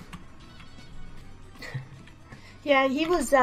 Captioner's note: chuckle